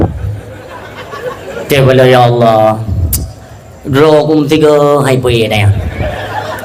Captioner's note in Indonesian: tertawa